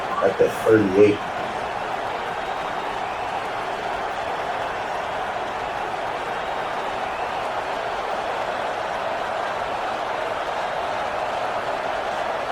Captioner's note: crowd Noises